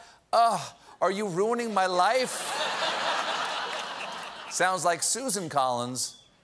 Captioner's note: laughter